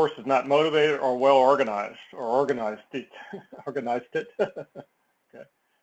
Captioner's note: laugh